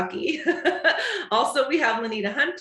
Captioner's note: chuckles